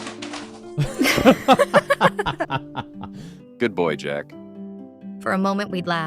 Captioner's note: laughing